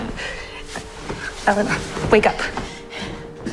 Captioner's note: voiceover